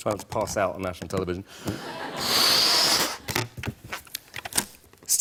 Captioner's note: laughter